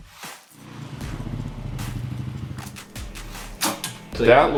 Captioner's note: quad bike engine roaring